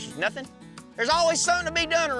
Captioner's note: angrily shouts